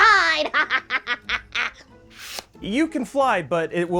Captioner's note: cackles exaggeratedly